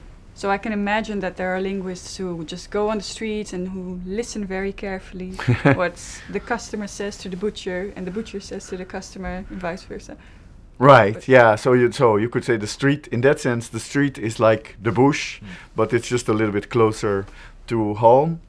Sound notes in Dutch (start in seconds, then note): 5.3 lacht